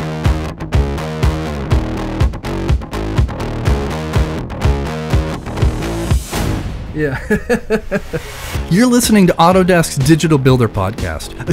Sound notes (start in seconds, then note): 0.1 upbeat music; 7.0 laughs